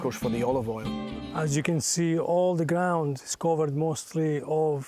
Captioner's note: with Italian accent